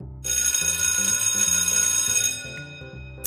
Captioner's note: bell rings